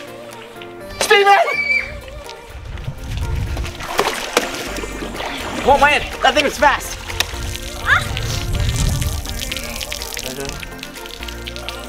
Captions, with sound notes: Stephen! (yelling) - Whoa man, that thing was fast! (water dripping)